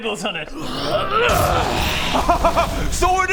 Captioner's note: hrrrgrhryhyrggarghgh!